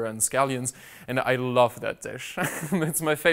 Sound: laughs

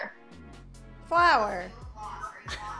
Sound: laughs

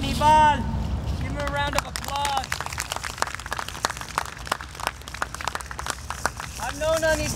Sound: audience applauding

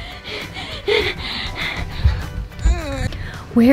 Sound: panting

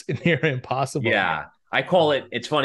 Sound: chuckles

